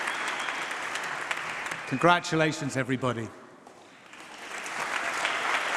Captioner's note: applause